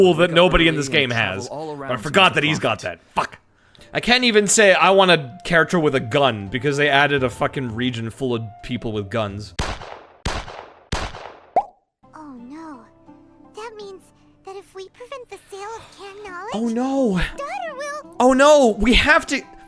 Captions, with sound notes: that nobody in this game has. But I forgot that he's got that. Fuck. I can't even say I want a character with a gun because they added a fucking region full of people with guns. [Gunshot] [Gunshot] [Gunshot] [Bubble Pop] Oh no. Oh no, we have to--